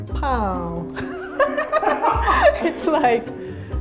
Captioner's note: laughs